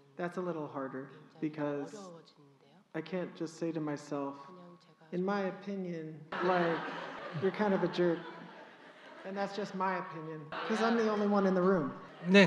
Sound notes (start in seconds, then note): 6.3 audience Laughter